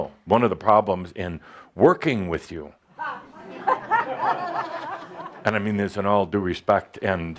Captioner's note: some laughter